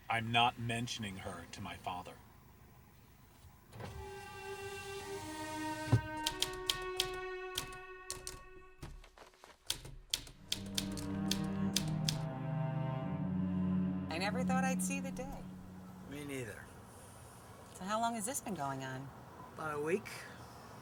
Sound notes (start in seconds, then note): 4.0 dramatic music; 6.2 typewriter clicking